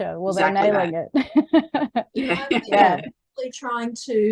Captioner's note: ladies laughing